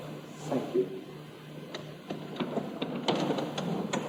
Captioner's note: none